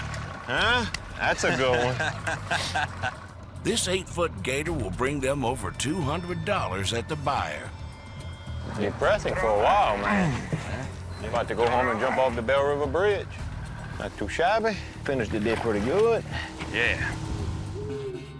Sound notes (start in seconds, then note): 1.4 laughter